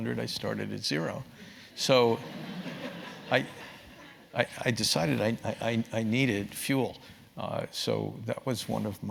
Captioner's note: laugh